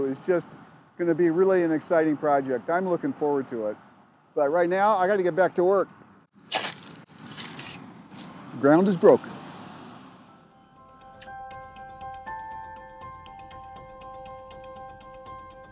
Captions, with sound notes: is just gonna be really an exciting project. I'm looking forward to it. But right now, I've gotta get back to work. (dirt crunching) The ground is broken. (bright music)